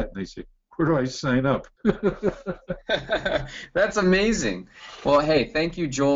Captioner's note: laughs